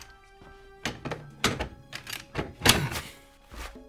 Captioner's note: tense music; metal rattling